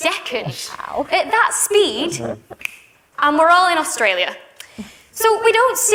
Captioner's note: snaps